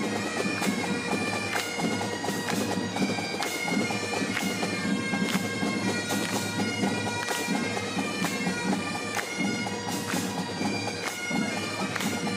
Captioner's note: clapping